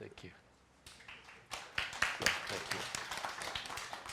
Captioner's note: applause